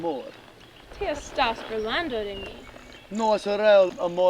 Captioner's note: Henry speaking foreign language; Angelina speaking foreign language; Henry speaking foreign language